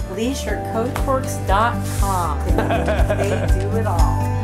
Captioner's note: laughter